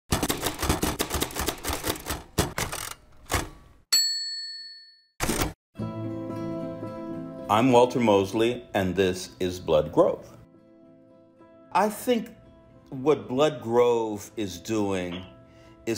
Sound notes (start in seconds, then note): 0.2 typing; 3.9 bell rings; 6.1 light calming music